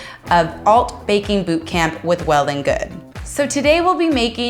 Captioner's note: none